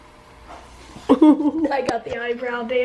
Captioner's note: giggling